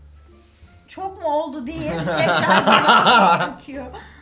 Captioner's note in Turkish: gülme sesi